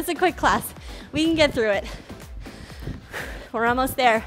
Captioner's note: breathes heavily